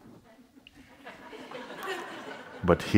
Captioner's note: laughter